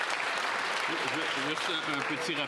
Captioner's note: some Applause